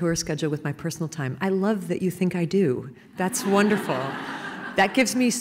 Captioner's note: laughter